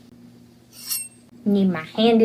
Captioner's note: knife sound